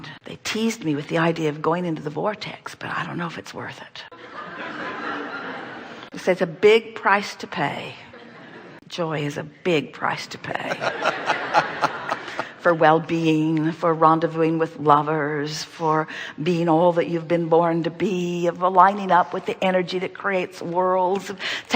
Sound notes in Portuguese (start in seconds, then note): 4.2 risos do público; 10.6 Audiência e convidado ri